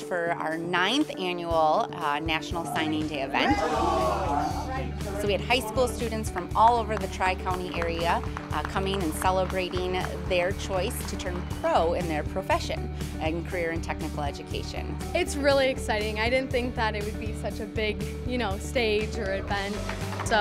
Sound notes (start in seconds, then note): 3.4 crowd cheering; 19.6 crowd applauding